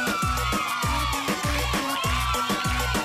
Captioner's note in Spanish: Aplausos; Exclamaciones